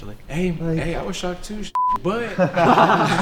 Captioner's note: beeping noise